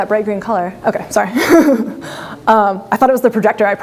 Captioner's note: laughs